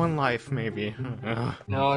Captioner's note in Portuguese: Resmungo